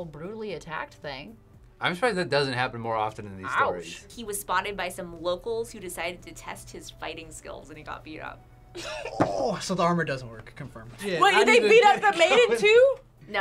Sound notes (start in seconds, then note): 8.8 laughs